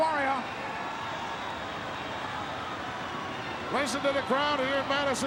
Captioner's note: crowd cheering